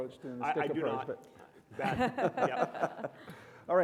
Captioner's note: chuckle